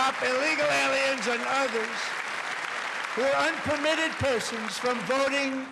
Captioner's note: cheers and applause